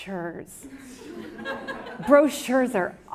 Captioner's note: audience laughs